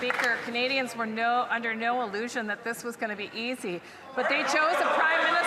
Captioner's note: some Applause